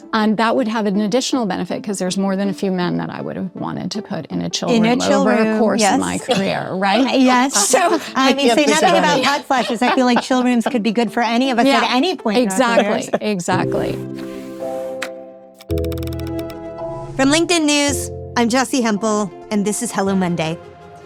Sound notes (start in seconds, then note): 7.4 laughs; 14.0 relaxed percussive music